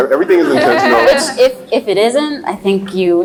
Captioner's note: laughs